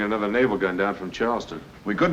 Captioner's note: none